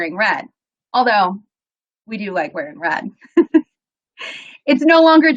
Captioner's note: laughs